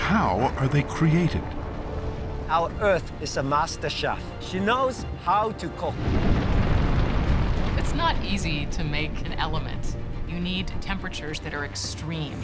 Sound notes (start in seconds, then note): 5.9 booming explosion